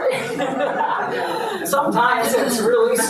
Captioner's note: audience laughs